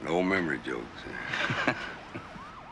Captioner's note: laughs